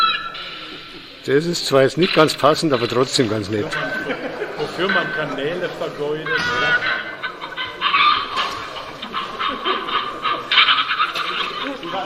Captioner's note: visitors' laughter; further cackling; further laughter from visitors